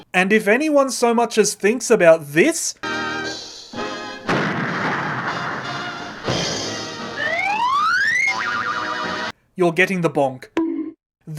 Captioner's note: boing!